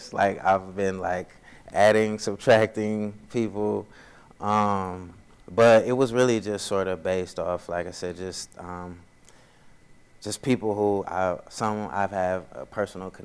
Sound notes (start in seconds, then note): none